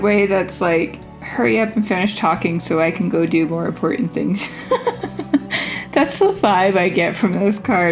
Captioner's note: laugh